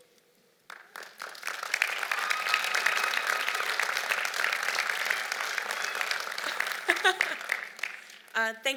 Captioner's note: applause